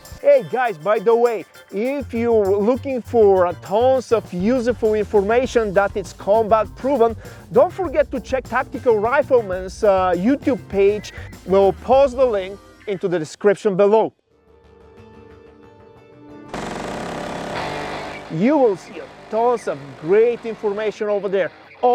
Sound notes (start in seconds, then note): 16.5 gunfire popping